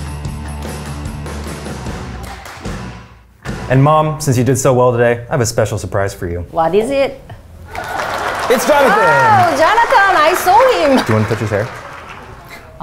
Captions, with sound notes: - And Mom, since you did so well today, I have a special surprise for you. - What is it? (audience claps) - It's Jonathan. - Oh, Jonathan I saw him. - Do you want to touch his hair?